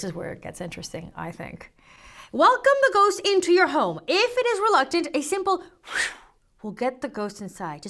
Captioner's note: puff